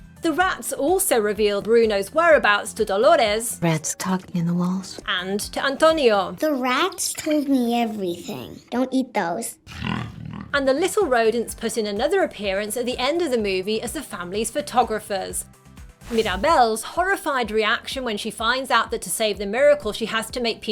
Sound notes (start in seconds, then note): 9.6 growls